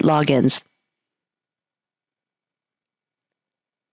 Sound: pause

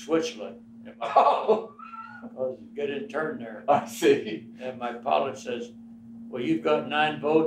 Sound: laughs

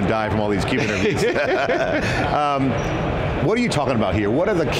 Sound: both laughing

